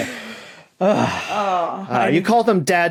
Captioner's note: laughter trails off; sigh